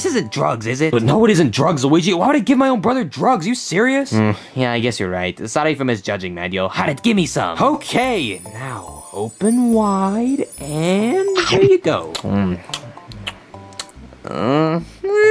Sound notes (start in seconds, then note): 13.0 Luigi munches; 13.1 smacking